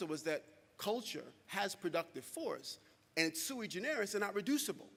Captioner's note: speaking quickly